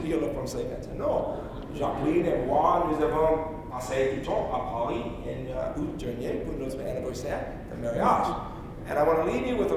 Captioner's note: speaking in French